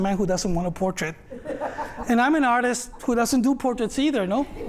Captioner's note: laughter; laughter